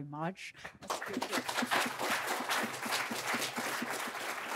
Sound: crowd applauds

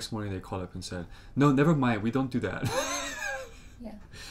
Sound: laughs

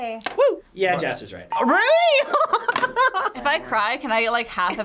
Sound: laughs

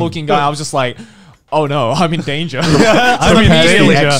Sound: laughs

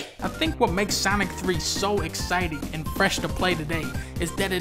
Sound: none

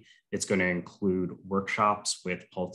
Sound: none

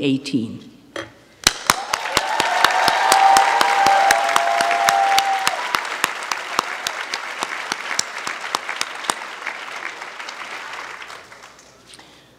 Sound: applause

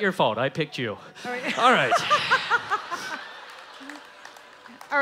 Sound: laughing

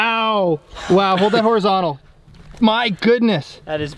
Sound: laughs

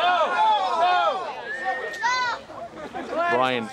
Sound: crowd shouts

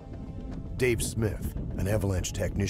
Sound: voiceover

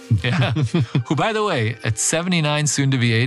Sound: laugh

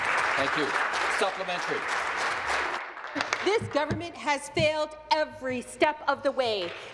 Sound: applause

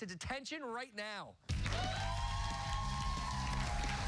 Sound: cheers and applause

